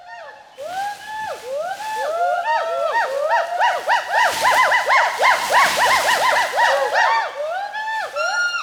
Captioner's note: calls continue